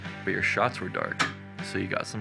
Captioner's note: light switch